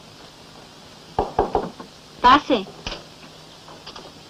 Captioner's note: knock at door